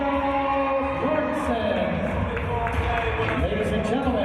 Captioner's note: applause